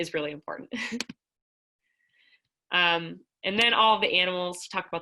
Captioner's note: laughter